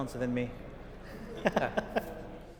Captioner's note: chuckles